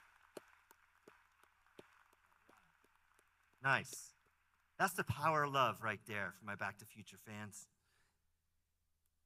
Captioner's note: applause